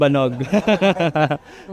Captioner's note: laughs